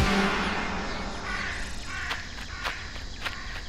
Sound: crow cawing

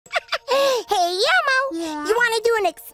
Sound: giggling

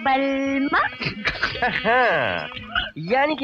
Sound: chuckling

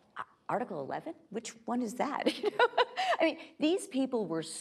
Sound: laughing

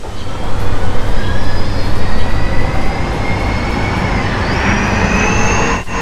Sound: engine noises

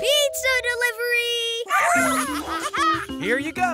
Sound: monkey noises

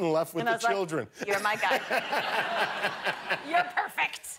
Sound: laughter

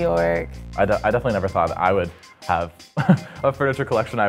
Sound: laugh

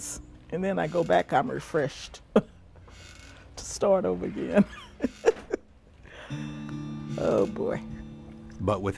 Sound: laughs

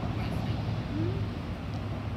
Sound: murmurs you’re welcome

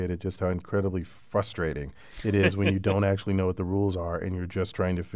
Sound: laugh

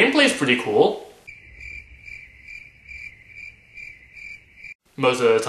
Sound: crickets chirping

